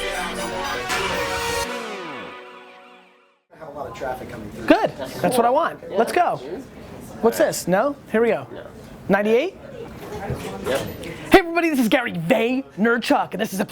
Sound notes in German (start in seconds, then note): 3.8 Voice-over